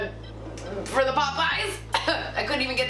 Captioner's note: coughs